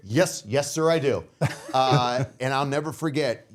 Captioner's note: laughing